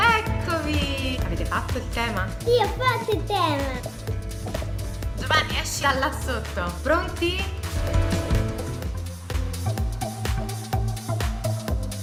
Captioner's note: laughing